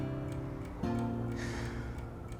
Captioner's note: mellow guitar music; sighs